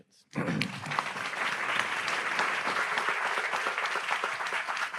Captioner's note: audience applauds